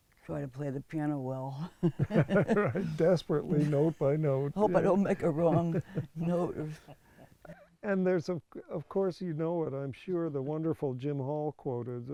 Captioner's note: laughs